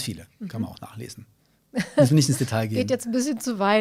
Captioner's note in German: lacht